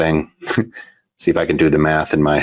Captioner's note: chuckles